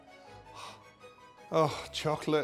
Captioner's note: gasping